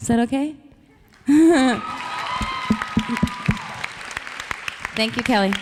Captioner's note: audience cheering; audience applauds